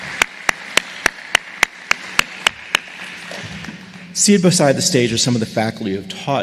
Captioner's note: applause